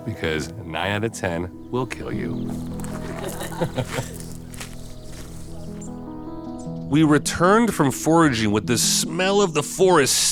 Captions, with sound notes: because 9 outta 10 will kill you. (soft music) (everyone laughing) We returned from foraging with the smell of the forest